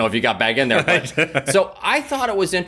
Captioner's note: laughs